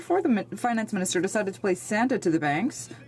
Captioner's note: speaking French